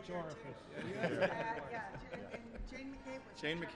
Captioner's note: laughter